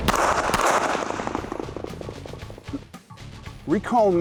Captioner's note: gun shots